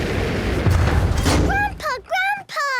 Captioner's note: thuds